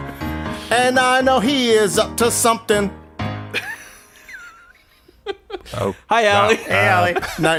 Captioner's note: laughing